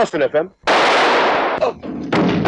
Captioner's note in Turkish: Silah sesi